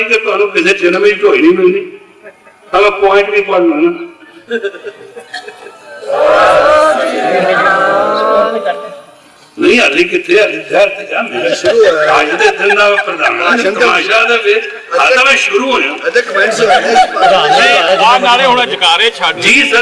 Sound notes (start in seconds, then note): 4.2 people laughed; 14.9 sangat laughed